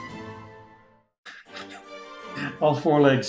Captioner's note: laughs